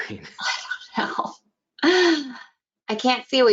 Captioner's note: laughing